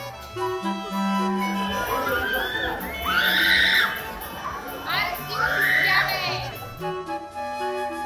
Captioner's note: excessive shouting